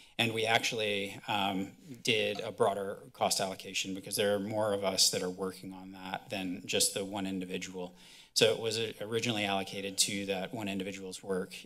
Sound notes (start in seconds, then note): none